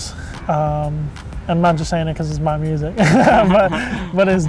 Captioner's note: laughs